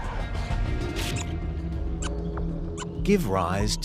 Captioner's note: toy squeaking